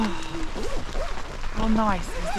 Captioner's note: rain